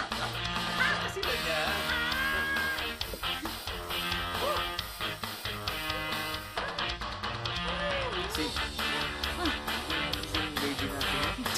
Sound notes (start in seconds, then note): 3.8 humming; 4.9 rock music playing on radio